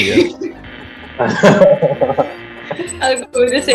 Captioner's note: laughs